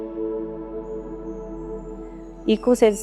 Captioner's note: birds chirping